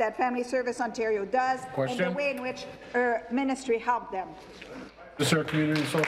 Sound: speaking in French

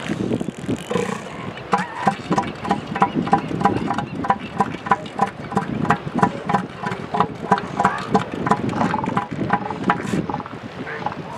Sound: booming vocalization

